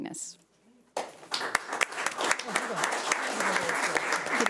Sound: audience clapping

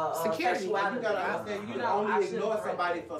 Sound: overlapping chatter

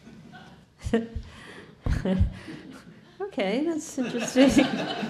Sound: chuckling; audience laughing

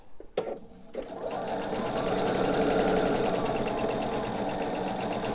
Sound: sewing machine whirring

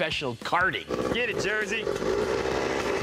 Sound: engine revving

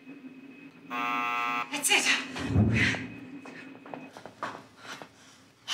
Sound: keypad beeps; door buzzes

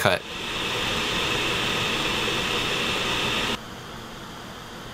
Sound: fan blowing loudly; fan blowing quietly

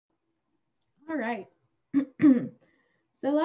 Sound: clears throat

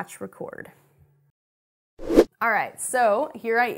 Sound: air rushes

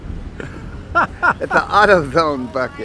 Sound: interviewer laughing

